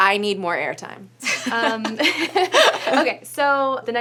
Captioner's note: laughs